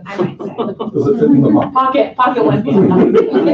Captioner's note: laughter